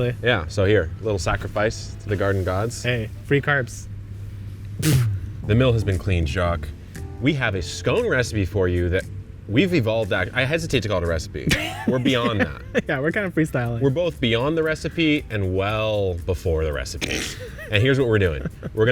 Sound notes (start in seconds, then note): 4.1 blowing flour dust; 11.5 laughing